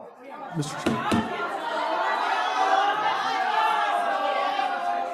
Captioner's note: crowd shouting